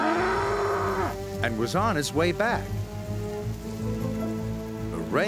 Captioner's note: rumbling